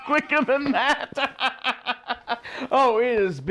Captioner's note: laughter